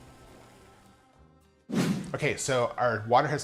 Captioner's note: whooshing